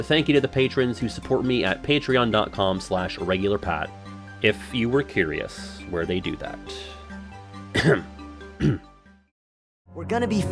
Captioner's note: cough